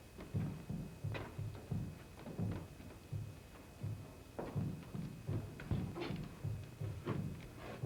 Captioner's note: steps creaking